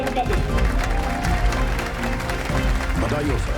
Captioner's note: applauses